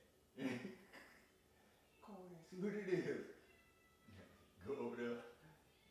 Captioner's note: laughing; imitates Devil